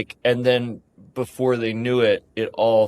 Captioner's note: none